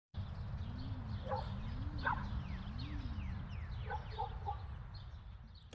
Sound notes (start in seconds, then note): 0.2 birds chirping; 1.6 dog barking